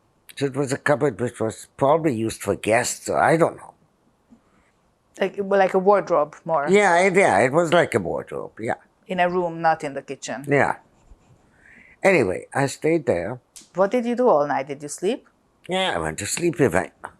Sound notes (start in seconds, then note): none